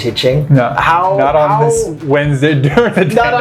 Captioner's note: laughs